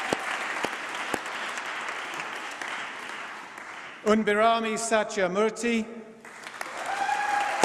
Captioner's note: applause; applause